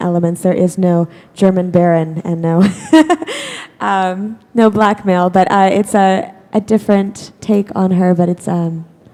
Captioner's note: chuckle